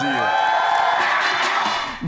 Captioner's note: cheering and applause